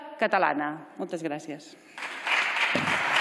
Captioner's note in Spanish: Aplausos